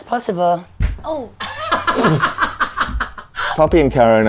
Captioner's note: Poppy laughs